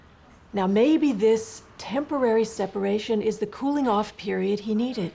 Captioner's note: none